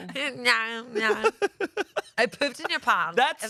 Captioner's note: laughs